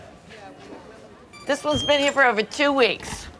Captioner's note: machine beeping